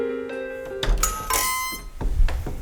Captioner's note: doorbell